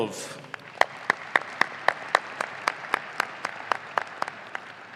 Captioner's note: audience applauding